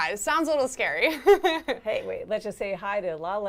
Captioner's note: laughs